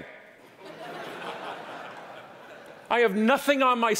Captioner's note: audience laughing